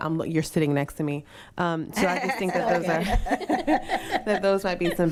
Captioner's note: and others laughing